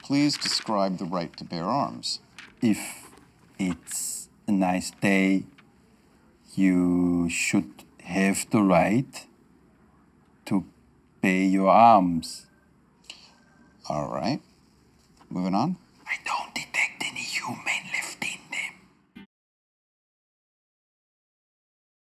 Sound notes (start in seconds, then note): 16.3 whispers